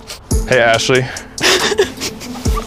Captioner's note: fake crying; girls laughing